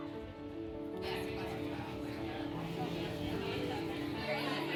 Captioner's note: melodic piano music; people chattering